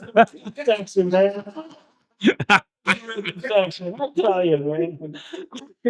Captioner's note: laughing